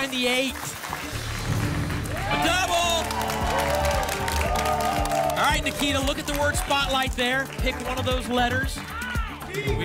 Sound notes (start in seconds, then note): 1.4 booms; 3.7 applause and cheering